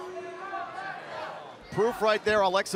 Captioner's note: crowd cheering